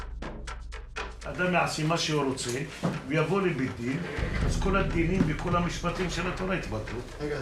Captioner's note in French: Hebrew spoken language